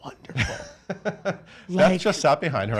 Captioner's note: laughs